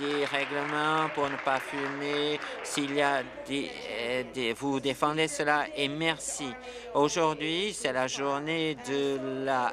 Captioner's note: applause